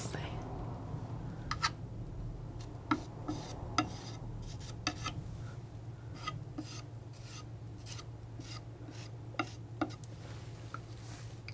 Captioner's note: tapping